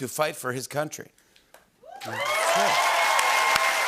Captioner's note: cheers and applause